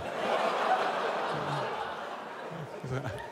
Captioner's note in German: Lachen